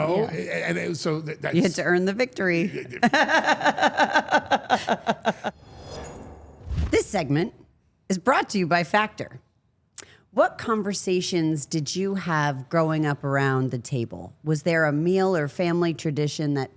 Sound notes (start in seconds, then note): 2.5 laughing; 5.5 logo whooshing